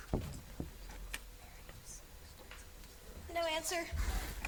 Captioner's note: students whisper